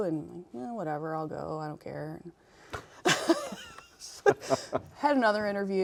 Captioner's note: laughs